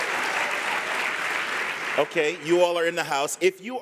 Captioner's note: applause